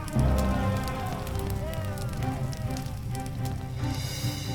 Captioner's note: crowd shouting; tense music